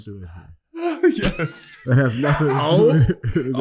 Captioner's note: chuckles